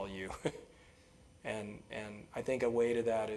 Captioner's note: laugh